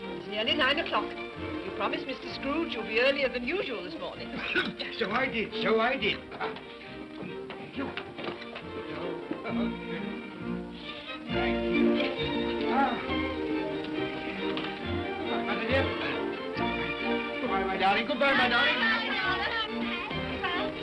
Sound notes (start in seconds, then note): 4.3 Cratchit coughs; 9.1 upbeat music; 13.8 upbeat music; 18.4 children clamoring